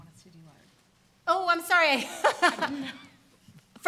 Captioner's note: laughs